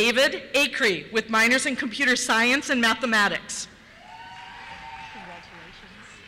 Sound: cheers

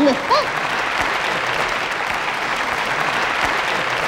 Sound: audience applauds

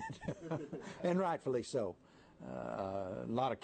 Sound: laughter

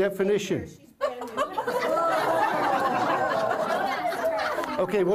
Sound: laughter

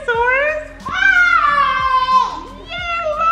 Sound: screams

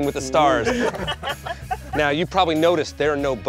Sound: group laughs

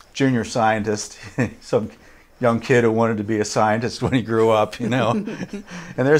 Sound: laughs

